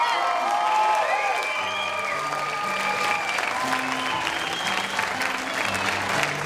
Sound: audience cheering and clapping

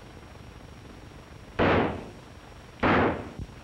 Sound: gunshots

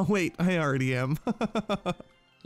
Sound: laughs

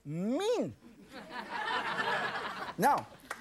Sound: audience laughing

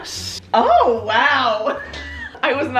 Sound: laughs

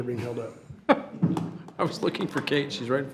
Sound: chuckles

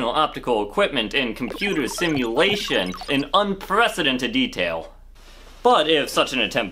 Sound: beeping sounds

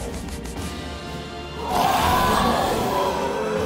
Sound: growling; grunting

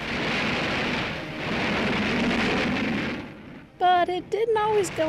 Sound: engines roaring

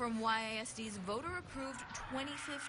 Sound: crowd cheerin

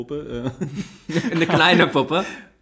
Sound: laughs

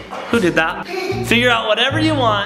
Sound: giggling

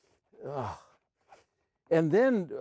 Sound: sighs

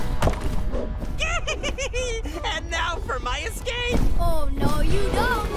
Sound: giggling

